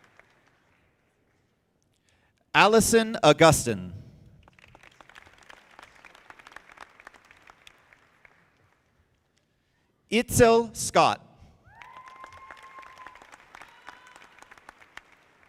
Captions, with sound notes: Allyson Agustin. (audience clapping) Itzel Scott. (audience applauding)